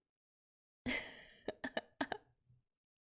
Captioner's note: laughs